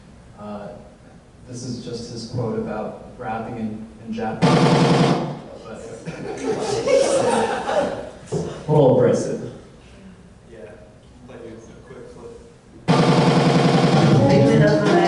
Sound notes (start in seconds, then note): 5.9 audience laughs; 13.7 upbeat music begins